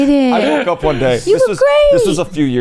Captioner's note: laughs